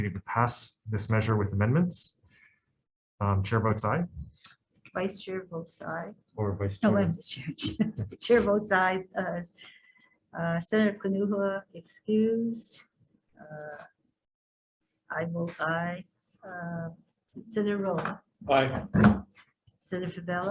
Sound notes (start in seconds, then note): 8.1 chuckle